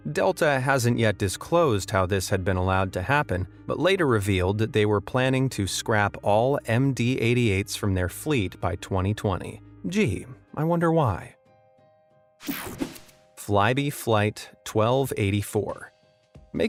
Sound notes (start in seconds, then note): 11.5 gentle music; 12.4 graphic whooshes